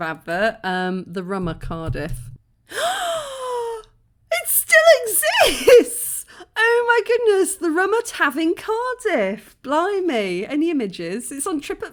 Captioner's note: gasp